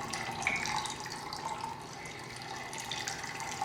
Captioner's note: water trickling